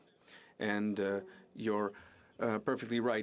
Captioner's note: speaking French